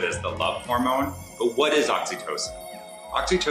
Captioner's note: chimes jingle